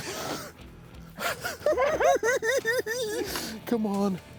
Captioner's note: cackling